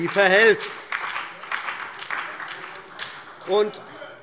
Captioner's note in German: Beifall CDU, BÜNDNIS 90/DIE GRÜNEN und DIE LINKE - Zuruf AfD: Wir sind dafür!